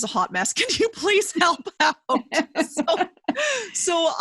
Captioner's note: laughing